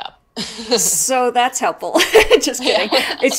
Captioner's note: laughs